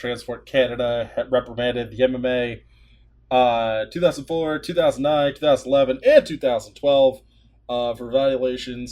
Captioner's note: deep breath